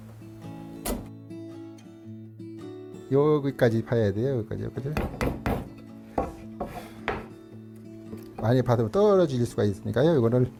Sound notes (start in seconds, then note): 3.1 hammering sound